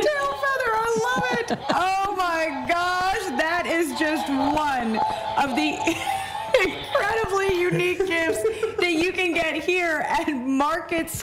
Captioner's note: hooves